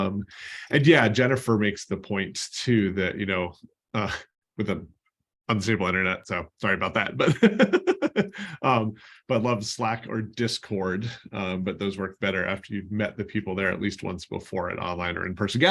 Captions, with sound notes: Jennifer makes the points to that. I'm zip on Internet, so sorry about that. [LAUGHTER] But I love Slack or Discord. But those work better after you've met the people there at least once before on online or in-person.